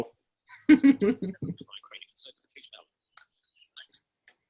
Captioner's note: laughing